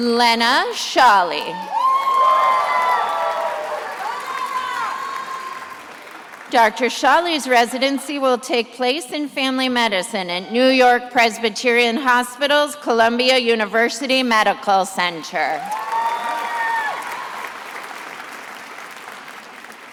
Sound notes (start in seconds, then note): 1.4 attendees applauding; 15.5 attendees applauding